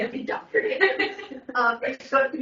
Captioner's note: everyone laughing